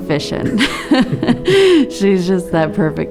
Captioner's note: laughing